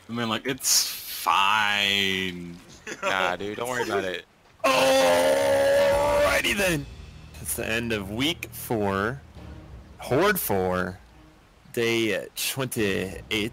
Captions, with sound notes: I mean like, it's fine! *LAUGHS* Yeah, dude. Don't worry about it... ALRIGHTY THEN! It's the end of week 4... Horde 4.... Day 28...